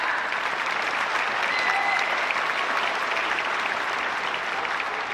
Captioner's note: audience applauds